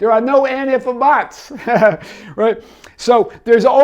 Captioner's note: laughing